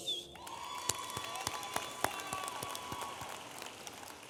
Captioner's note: audience applauding